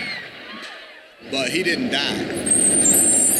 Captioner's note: vehicle approaching